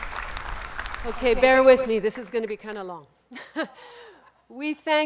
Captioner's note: laughs